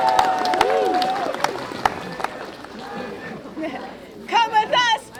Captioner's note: cheering